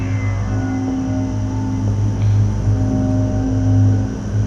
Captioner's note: object whirring